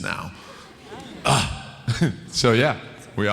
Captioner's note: clears throat